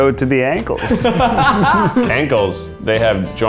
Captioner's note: laughs